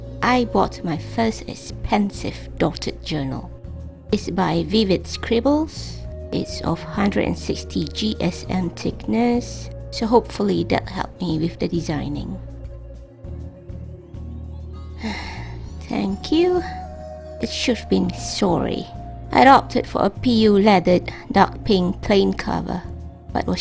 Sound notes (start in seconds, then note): 14.9 sigh